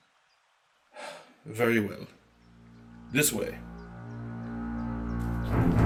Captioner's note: sigh